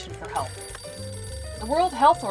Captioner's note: phone ringing